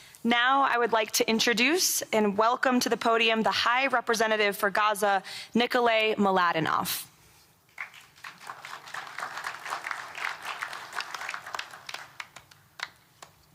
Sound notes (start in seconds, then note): 7.7 applause